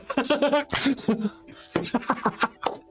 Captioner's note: laughing